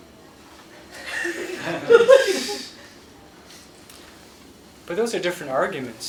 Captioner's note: laughter